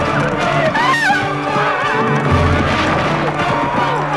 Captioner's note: women screaming